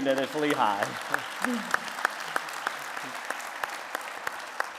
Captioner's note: applause